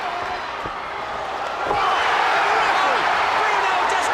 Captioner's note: crowd cheering